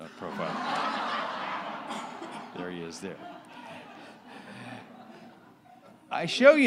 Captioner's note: laughter